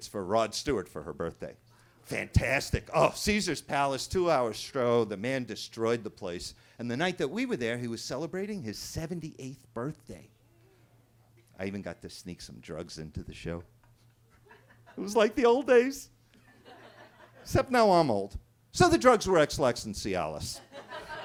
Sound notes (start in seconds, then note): 14.3 attendee laughing; 16.4 attendees laughing